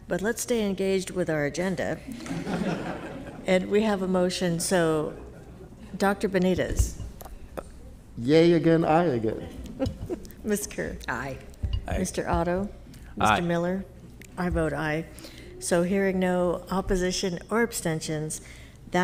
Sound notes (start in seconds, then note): 2.1 all laughing